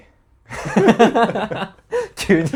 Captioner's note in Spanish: risas